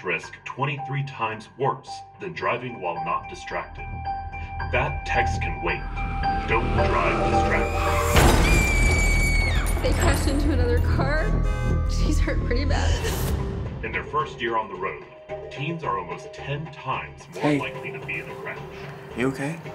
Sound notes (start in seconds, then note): 6.9 tires squealing; 7.4 crashing; 8.3 screaming; 11.3 sirens